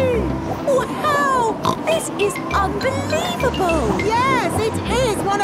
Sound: snorts

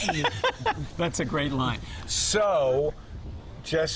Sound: laughs

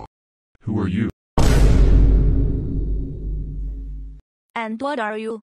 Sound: boom

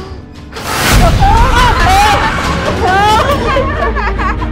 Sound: laughing; shouting; laughing

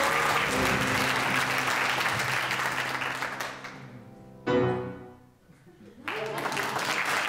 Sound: audience cheers

